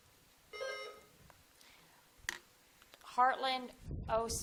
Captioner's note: buzzer dings